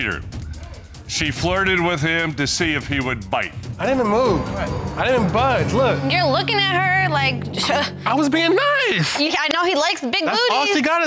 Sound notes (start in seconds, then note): 7.7 toots